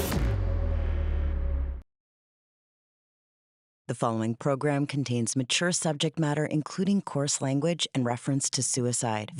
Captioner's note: whooshing